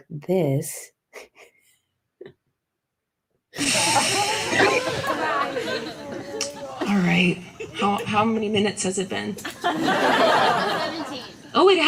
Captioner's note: laughter